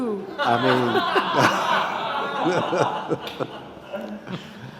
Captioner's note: all laughing